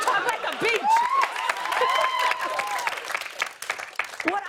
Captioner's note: cheers and applause